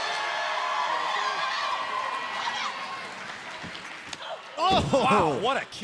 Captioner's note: cheers and applause